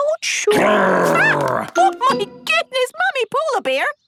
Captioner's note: loud growl